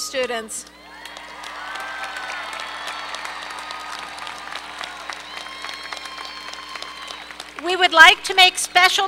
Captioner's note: applause